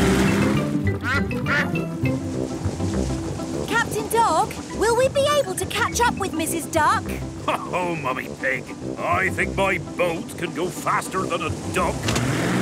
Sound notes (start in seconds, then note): 1.1 quacks; 7.4 chuckles